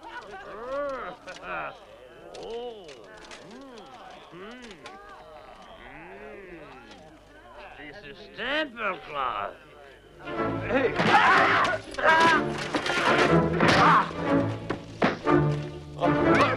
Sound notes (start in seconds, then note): 10.2 dramatic music; 11.2 Hundra yells; 13.9 all grunting